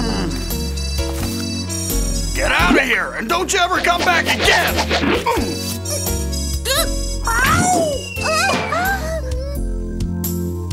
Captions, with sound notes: (grunts) - Get out of here, and don't you ever come back again! (sock whooshing) (cat yells) - Oh! - Huh?